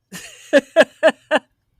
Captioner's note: laughs